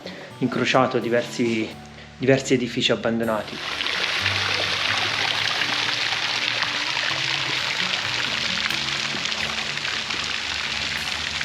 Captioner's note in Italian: Applauso